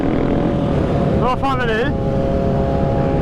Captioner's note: speaking through intercom